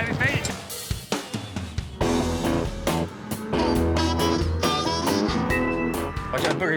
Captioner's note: cattle mooing